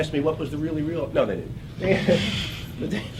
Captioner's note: laugh